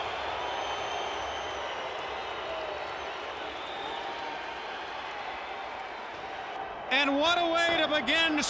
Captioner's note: crowd cheering